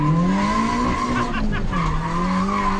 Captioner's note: laughing